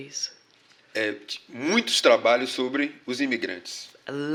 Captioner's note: speaking portuguese